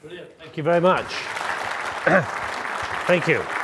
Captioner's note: audience clapping